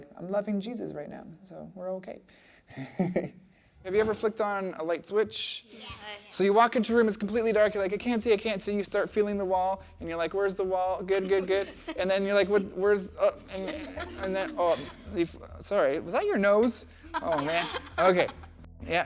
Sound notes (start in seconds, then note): 2.8 chuckles; 14.3 laughing